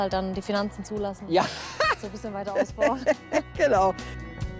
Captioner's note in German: lacht laut